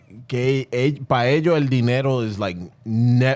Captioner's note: speaking In Foreign Language